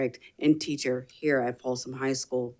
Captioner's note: none